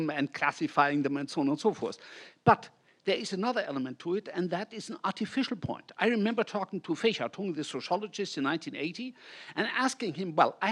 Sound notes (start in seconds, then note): 6.7 speaks in foreign language